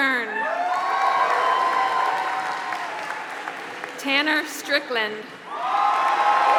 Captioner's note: applause